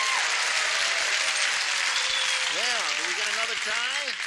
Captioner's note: cheering